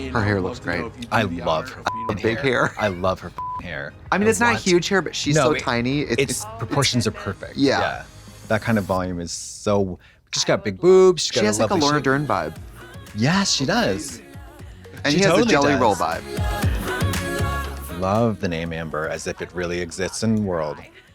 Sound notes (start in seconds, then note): 3.4 beep